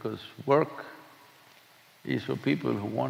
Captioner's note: none